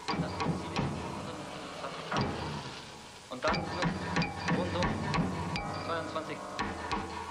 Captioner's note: tense sparse music; officer speaks in foreign language